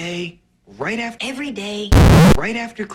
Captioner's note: higher pitched